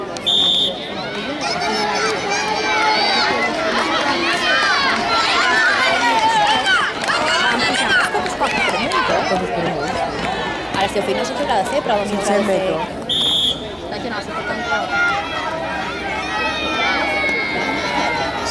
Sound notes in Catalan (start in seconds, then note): 0.0 La gent anima; 0.2 Xiulet; 13.0 Xiulet